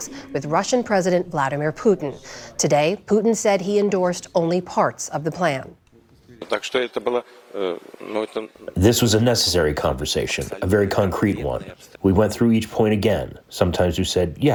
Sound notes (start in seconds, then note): 9.5 through translator